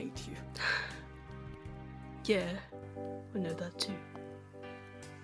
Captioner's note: James sighs